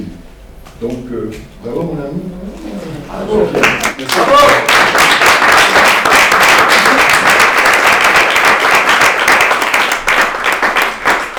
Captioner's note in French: clap, clap, clap